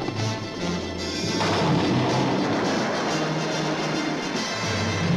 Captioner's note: vase crashes